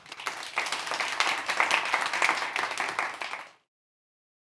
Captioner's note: applause